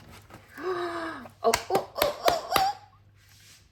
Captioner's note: gasp